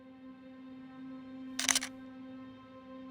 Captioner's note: camera shutters